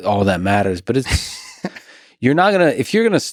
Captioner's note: Craig laughs